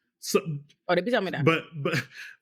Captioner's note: non-english speech